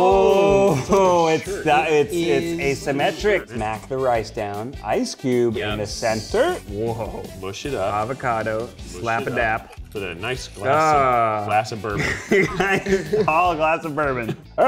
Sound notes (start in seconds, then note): 11.9 laughing